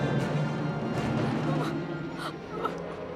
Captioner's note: whimpering